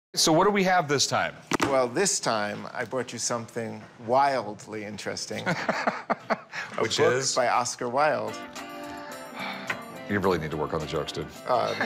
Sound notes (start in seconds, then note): 5.4 laughs